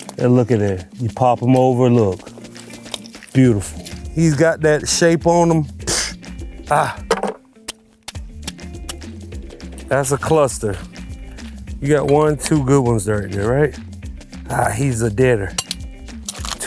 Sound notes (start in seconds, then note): 7.1 tool clinking